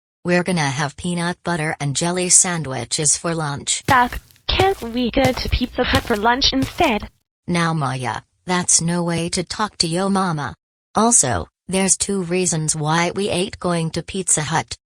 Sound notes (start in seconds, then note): 3.8 footsteps